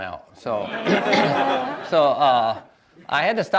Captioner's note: audience laughs